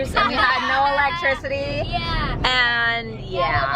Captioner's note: kids laughing